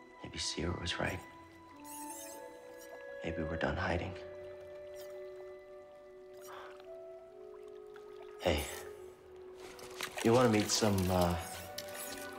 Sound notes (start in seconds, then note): 6.4 quiet sigh